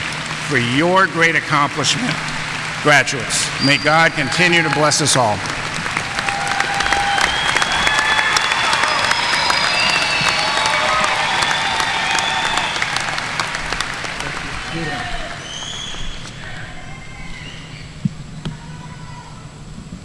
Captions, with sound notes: for your great accomplishment. Graduates, may God continue to bless us all. (audience cheering and applauding)